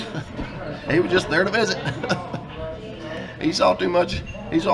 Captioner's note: laughs